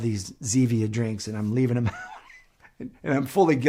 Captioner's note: laughs